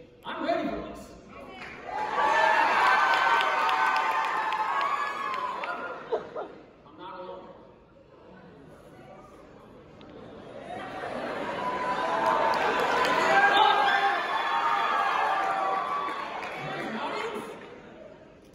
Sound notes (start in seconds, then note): 1.5 applause & Cheers; 8.2 crowd Murmuring; 10.6 cheers